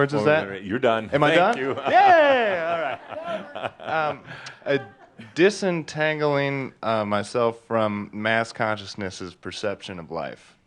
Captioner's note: some laughter